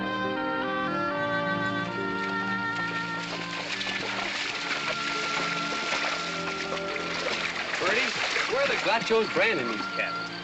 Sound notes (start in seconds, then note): 0.0 evocative music; 2.6 water splashing